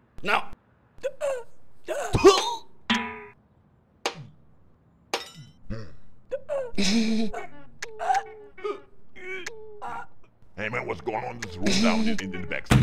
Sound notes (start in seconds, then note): 1.2 choking; 2.1 cough; 2.9 metallic bang; 6.6 awkward giggle; 12.5 door slams